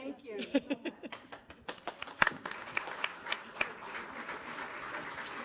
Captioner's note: audience applauding